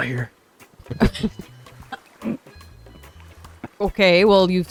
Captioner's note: laughter